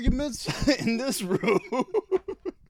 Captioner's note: laughing